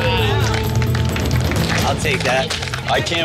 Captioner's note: group clapping